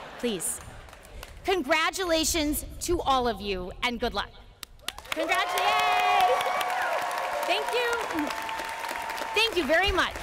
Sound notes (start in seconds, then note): 0.0 laughter; 4.8 cheering and applause